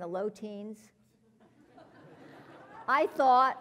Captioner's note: laugh